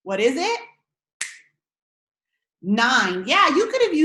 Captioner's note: snaps fingers